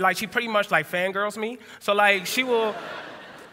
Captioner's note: laughter